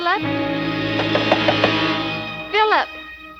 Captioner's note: knocking on door